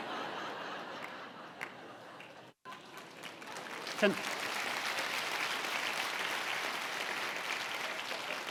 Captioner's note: audience laughs, applauds